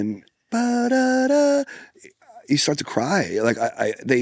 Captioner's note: hums